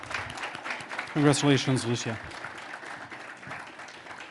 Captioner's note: applause